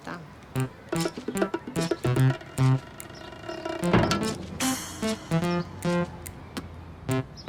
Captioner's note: birds